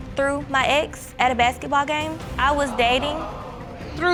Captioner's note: audience exclaim